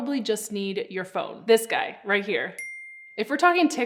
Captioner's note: bell dings